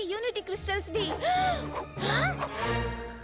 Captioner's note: gasping